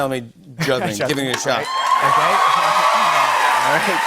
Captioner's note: cheers and applause